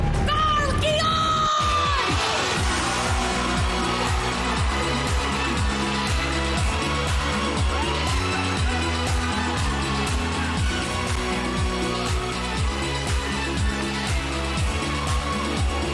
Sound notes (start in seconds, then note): 0.0 suspenseful music playing; 2.6 audience cheering; 2.6 upbeat music playing